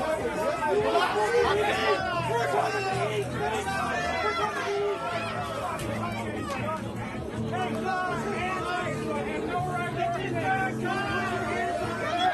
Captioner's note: crowd noise